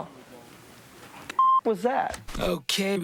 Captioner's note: beep